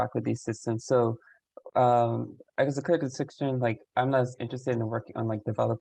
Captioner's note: voice muffling